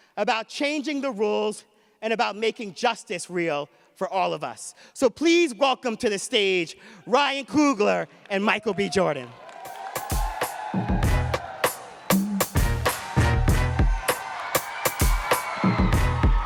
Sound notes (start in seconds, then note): 9.9 upbeat hiphop music; 10.4 audience applause and cheers